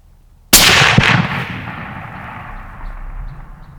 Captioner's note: gun fires